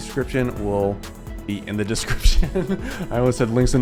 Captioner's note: laughing